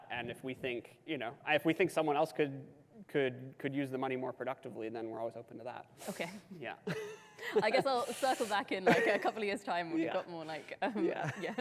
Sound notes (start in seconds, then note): 7.1 laughs